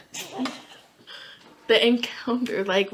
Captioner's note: laughing